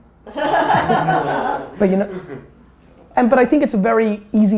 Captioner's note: group laughter